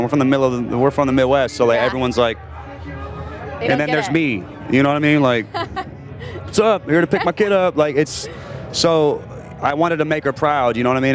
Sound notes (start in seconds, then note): 5.3 laughs